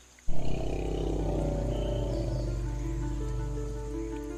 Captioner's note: deep and low grumbling